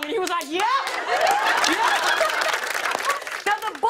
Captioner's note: laughter and applause